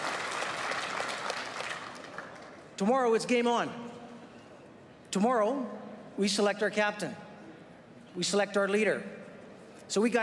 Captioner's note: applause